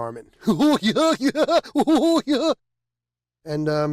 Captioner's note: dramatic laughter